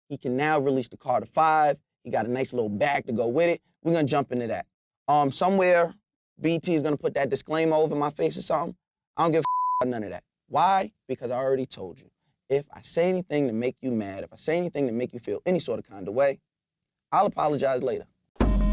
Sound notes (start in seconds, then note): 9.4 beep; 18.4 energetic hip hop music